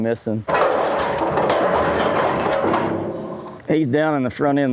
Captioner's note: metal clanking